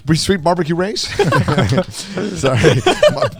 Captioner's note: group laughs